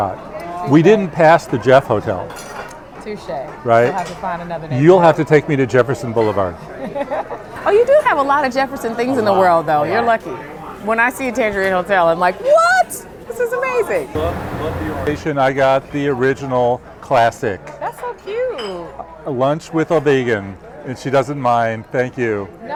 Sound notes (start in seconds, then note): 6.9 laughing